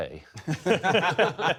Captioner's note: laughter